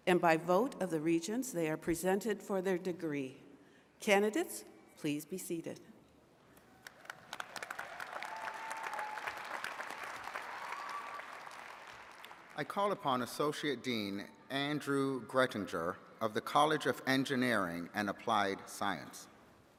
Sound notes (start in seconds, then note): 6.6 attendees cheering and clapping